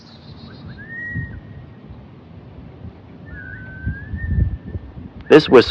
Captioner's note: strangers whistling erratically